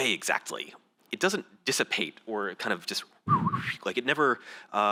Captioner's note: whistles